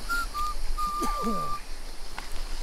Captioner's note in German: Nießt